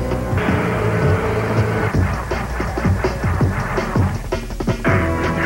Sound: evil cackling in the background; evil cackling

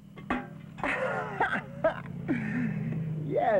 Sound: laughs

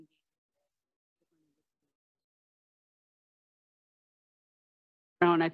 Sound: silence

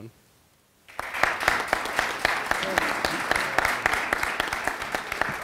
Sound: audience applauding

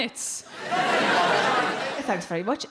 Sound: crowd laugh

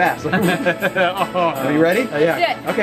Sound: laughs

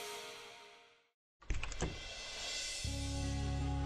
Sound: door opens

